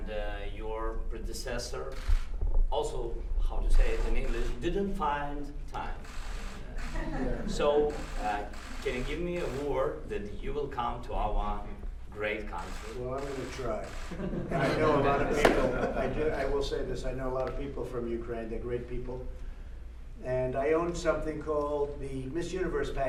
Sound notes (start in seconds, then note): 6.8 laughter; 14.1 laughter